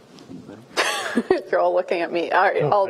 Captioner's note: laughs